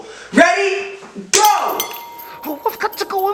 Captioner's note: bell rings